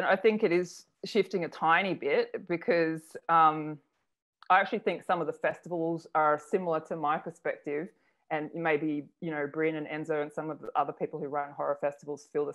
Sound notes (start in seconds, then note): none